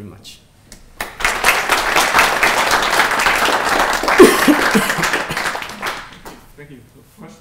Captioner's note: applause